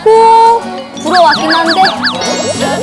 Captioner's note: blowing~